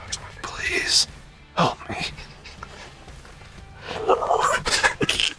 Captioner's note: laughing